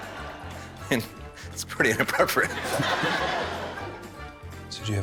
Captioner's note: chuckles